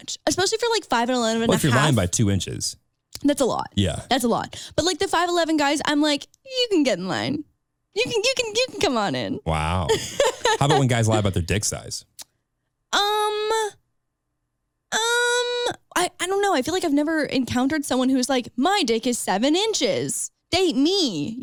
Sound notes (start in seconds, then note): 6.1 squeals; 9.8 laughing